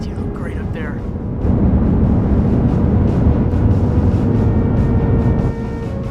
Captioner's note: inspiring music; rocket rumbling